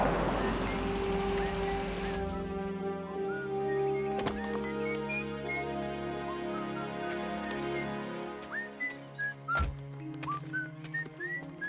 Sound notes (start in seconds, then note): 3.1 whistling